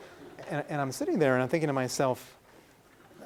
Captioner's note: laughing